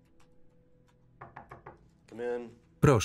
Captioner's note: knocking on door